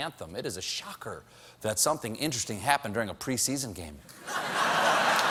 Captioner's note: laughter